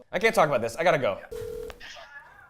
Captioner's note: phone rings